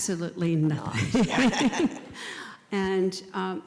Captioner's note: laugh